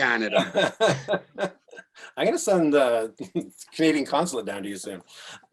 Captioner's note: laughs